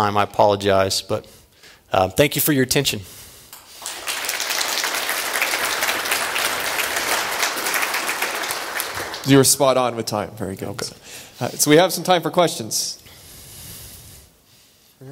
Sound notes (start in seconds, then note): 3.5 applause